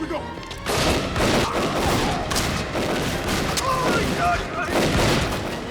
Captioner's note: gunfire clattering; gangsters groaning